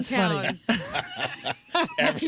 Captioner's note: laughter